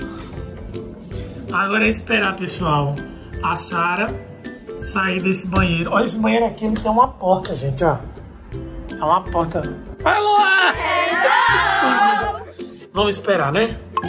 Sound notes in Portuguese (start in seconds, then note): 10.8 som de "hello" em coro